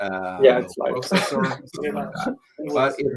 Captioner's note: speaking in foreign language